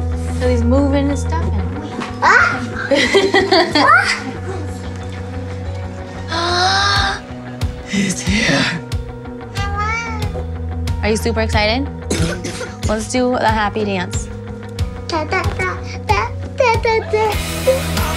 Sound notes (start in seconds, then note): 2.6 laughs; 6.0 gasps; 12.0 coughs; 14.6 sings